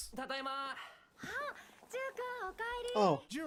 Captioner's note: speaking in foreign language